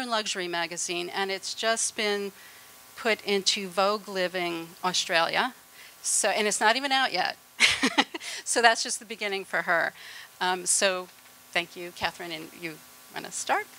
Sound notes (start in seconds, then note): 7.6 laughter